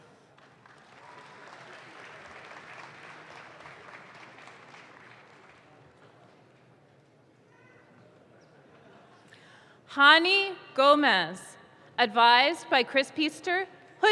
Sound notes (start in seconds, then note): 0.0 audience claps